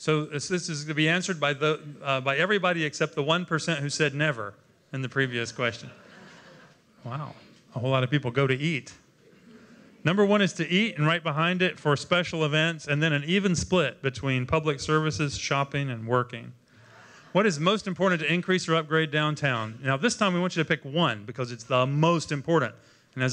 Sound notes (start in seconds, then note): 5.8 laughter